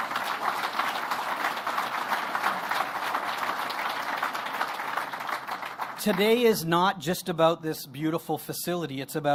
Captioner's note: applause